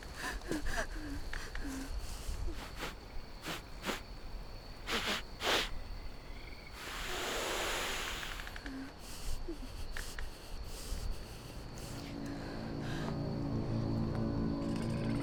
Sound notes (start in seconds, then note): 0.0 Sarah breathing heavily; 2.6 werewolf sniffing